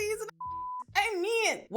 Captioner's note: beep